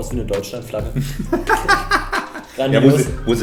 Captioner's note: both laughing